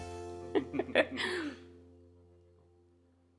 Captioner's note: laughs off camera